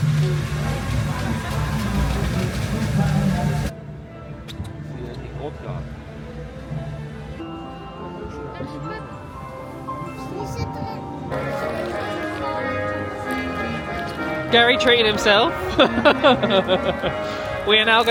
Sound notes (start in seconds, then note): 0.1 passing train clacking; 4.6 gentle dramatic music; 4.6 guest speaking in German; 8.3 gentle music; 11.7 bright festive music; 15.6 chuckles